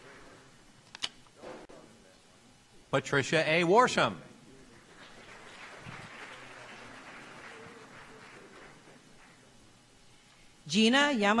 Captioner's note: applause